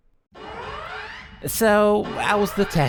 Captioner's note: alarm